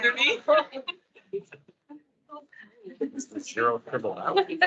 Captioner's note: attendees laughing